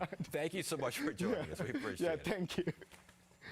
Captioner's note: laughter